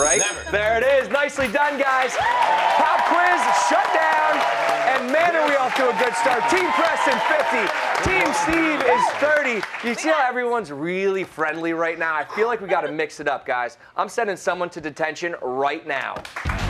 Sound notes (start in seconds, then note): 1.5 cheers and applause